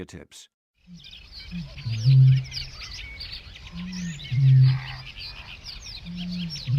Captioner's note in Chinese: 鳥聲